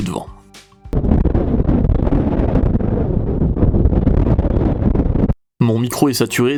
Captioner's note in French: Vent très fort